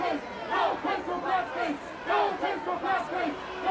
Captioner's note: shouting continues